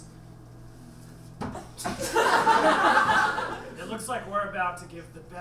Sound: audience laughs

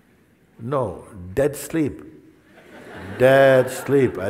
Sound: laughter

